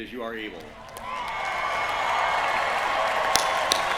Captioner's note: cheering